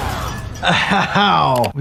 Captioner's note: weapon smashing; metal clattering